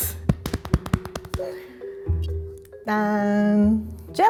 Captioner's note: thudding sounds